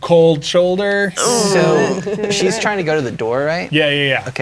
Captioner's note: players groaning